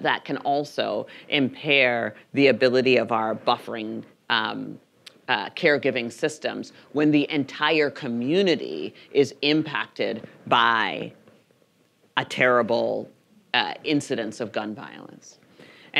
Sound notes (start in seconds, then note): none